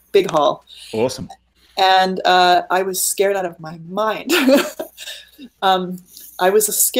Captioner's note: laughing